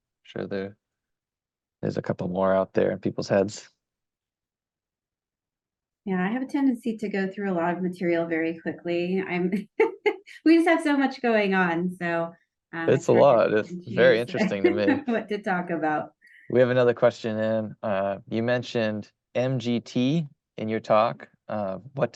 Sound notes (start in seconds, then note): 9.6 laughs